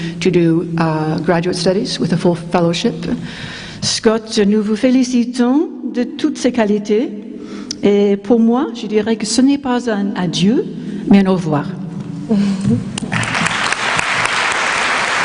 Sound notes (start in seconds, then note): 6.8 speaking french; 13.0 applause